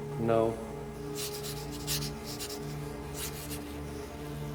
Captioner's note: pen scratches